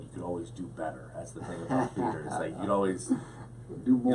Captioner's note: laughs